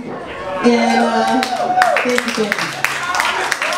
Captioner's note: audience cheers